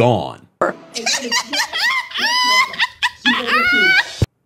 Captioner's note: woman cackling